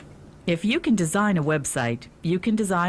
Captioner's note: voiceover